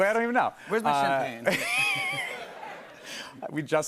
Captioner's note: laughter